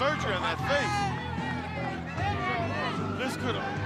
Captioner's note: crowd chatter